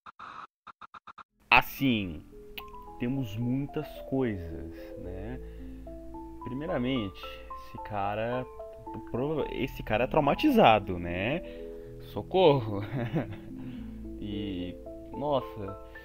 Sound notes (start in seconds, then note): 7.5 stuttering